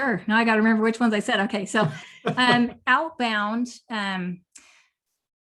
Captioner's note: laughter